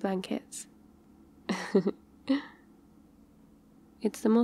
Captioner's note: laughs